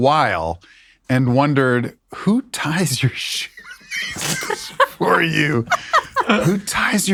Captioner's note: laughs